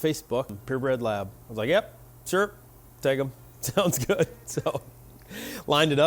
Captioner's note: laughing